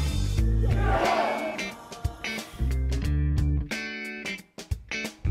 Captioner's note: crowd shouts loudly